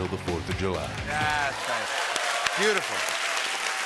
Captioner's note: cheering and applause